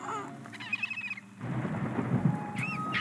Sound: chirping

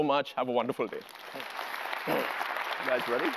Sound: applause

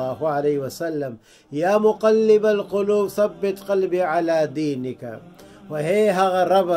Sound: Arabic

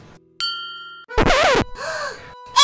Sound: flower dinging; assistant gasping

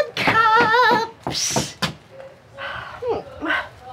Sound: hisses; sighs

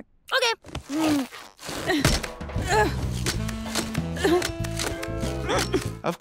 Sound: groaning

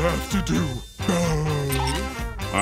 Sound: moaning

